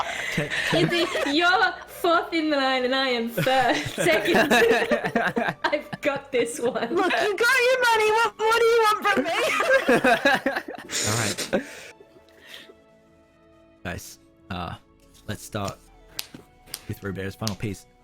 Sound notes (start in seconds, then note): 3.4 all wild giggles; 9.2 all giggles